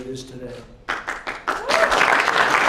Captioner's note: applause